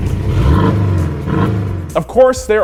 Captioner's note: engine revs